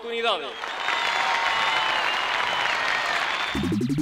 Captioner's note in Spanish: Aplausos